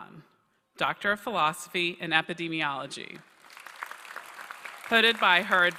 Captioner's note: applause